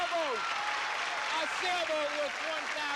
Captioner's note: cheers and applause